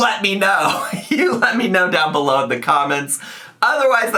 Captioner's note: laughs